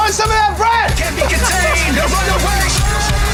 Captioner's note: laughs